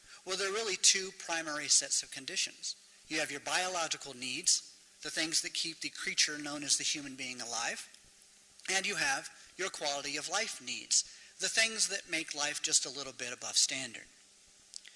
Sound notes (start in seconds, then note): none